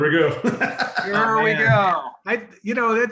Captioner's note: laughing